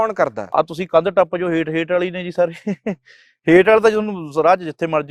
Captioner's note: laughs